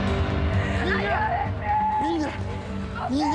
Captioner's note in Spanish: Gritos